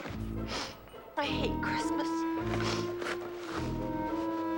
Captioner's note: sniffles